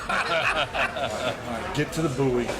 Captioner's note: laughter